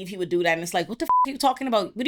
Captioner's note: beep